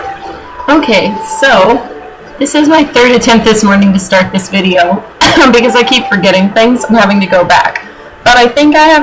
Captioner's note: coughs